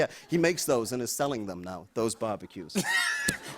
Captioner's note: laughter